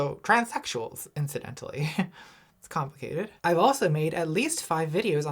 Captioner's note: laughs